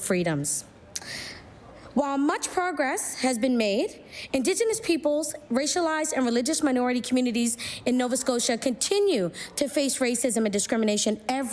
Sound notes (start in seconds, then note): none